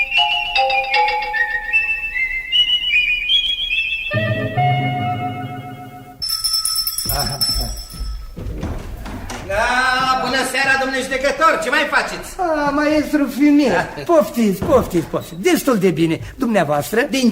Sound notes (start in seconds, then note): 7.0 knocking on the door